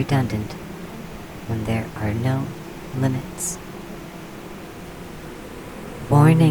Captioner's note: the hive hum becomes frenzied once more